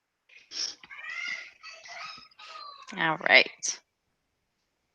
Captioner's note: laughs